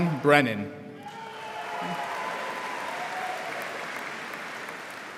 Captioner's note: audience applauding